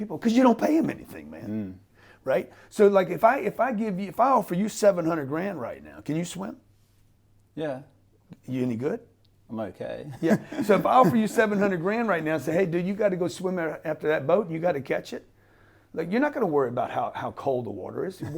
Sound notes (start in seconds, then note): 10.2 laughs